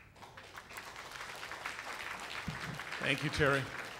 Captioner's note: applause